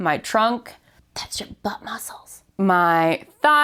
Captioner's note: whispering